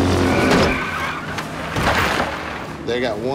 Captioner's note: tires squeal